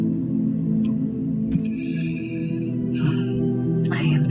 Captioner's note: long sigh